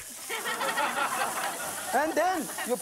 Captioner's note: audience laughs